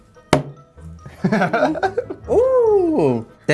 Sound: laughing

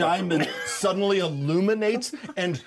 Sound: speaker chuckles

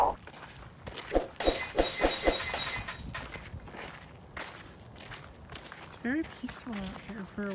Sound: glass Breaking sound effect

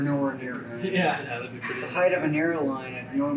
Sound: laughs

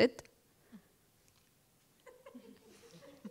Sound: laughter

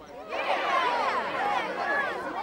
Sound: crowd

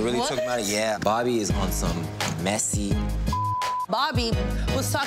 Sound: beep

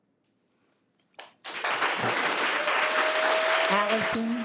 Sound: audience applause

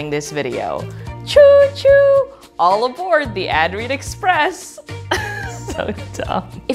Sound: laughs

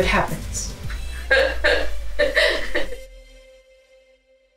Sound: laughing

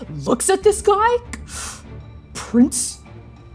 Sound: sharp inhale

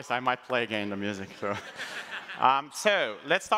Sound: laughs

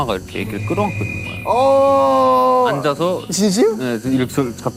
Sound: groaning

